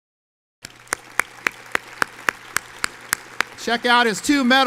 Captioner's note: audience applauds